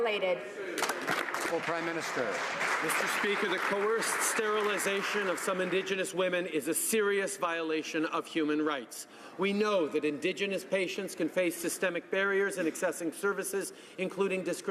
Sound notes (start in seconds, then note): 3.4 some Applause